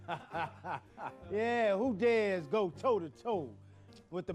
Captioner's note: laughing